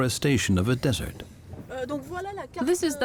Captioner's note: speaking French